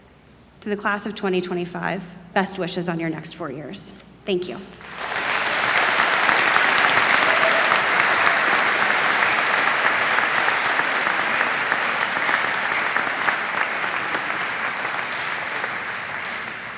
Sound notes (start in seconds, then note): 4.7 applause